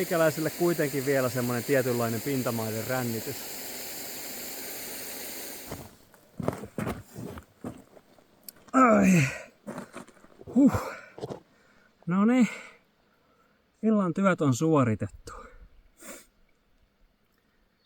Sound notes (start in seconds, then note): 8.7 grunting